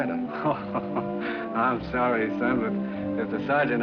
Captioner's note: laughs